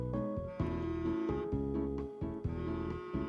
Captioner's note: phone Vibration